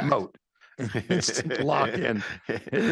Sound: chuckling

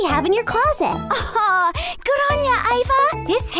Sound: laughs

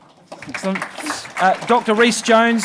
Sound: audience applauding

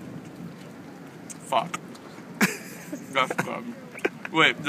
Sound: laughter

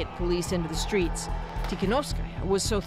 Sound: speaking alternate language

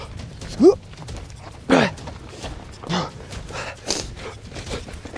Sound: dramatic music; huffing and puffing

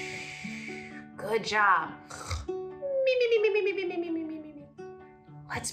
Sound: snoring sounds; sleeping sounds

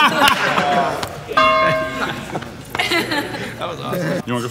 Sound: bell rings

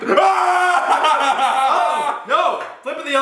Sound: shouting and laughing

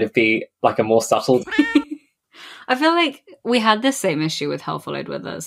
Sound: laughs

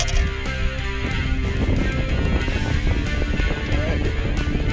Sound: wind blowing

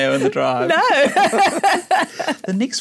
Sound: laugh

